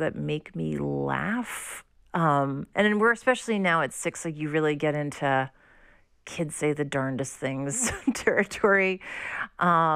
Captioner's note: laughter